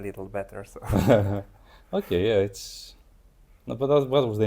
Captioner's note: laughs